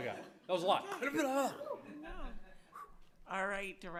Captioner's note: speaks gibberish